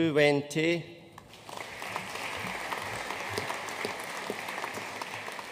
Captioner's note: audience applauding